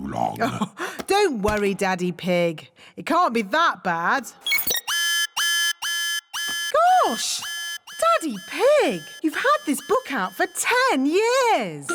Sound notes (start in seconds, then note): 0.1 chuckles; 4.4 beeping; 4.4 alarm blares